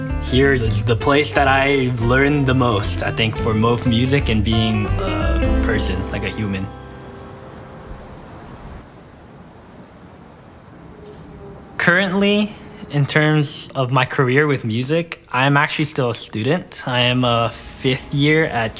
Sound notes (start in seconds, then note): 7.4 wind blowing; 9.4 distant traffic rumble